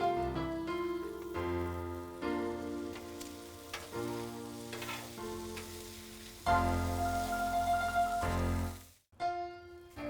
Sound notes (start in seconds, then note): 2.2 grill sizzling